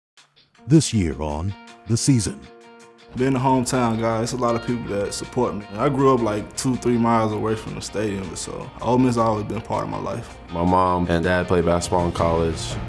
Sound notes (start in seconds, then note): 0.7 voiceover